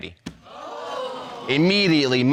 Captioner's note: audience exclaims